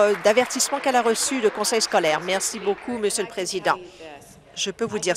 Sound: applause

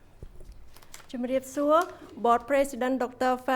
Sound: speaks foreign language

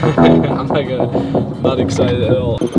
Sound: chuckles

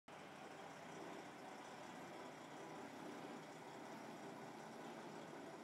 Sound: truck motor

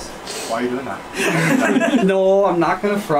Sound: laughing

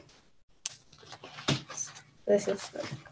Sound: pages sift

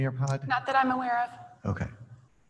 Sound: off mic

